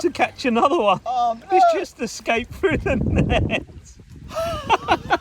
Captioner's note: laughing